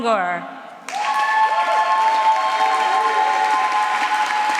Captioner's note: applause